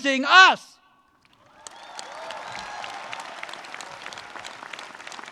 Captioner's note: audience cheers and claps